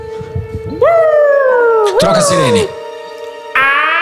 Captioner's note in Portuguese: sirene